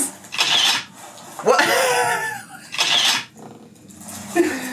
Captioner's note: camera shutter clicking